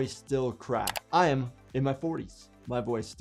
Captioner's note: keyboard keys clicking